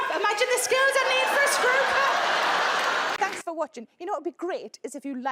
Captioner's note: audience laughs